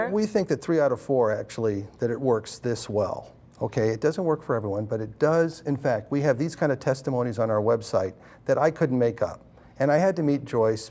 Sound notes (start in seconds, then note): none